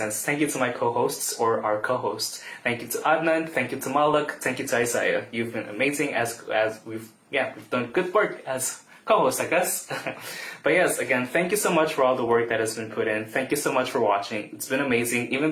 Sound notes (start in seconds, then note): 9.9 laughs